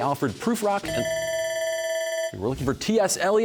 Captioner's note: bell ringing